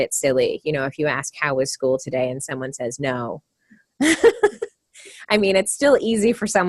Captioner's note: laughter